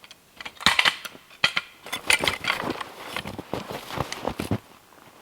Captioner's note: log hook clanking